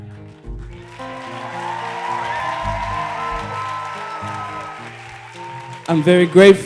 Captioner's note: applause and cheers